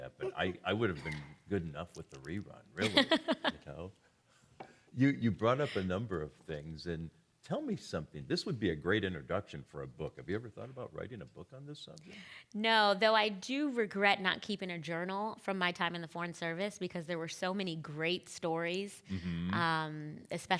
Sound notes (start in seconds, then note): 2.8 laughing